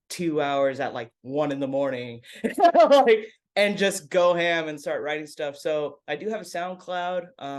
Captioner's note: laughs